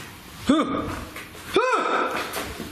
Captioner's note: soft clanging; surprised yelling; loud yelling